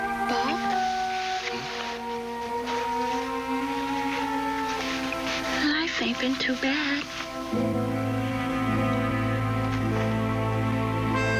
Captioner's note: sniffling